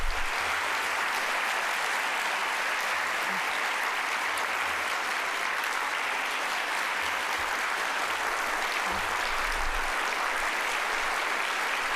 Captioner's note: applause